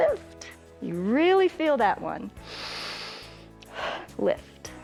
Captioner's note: inhales and exhales